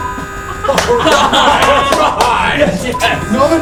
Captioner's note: cheering